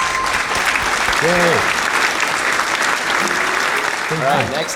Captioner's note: audience applauding